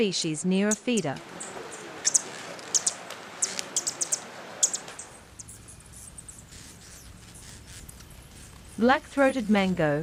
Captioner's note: birds chirping